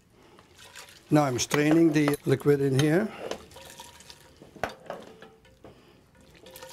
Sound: liquid noises

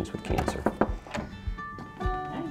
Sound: knocking

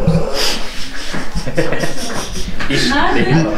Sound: chuckles

